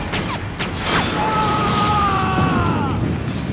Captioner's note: groaning